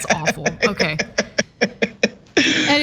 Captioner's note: laugh